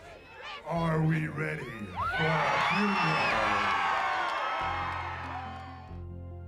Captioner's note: audience cheers and applauds